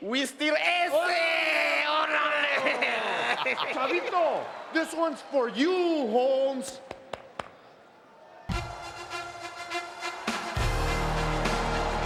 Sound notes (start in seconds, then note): 2.0 laughs; 8.6 triumphant music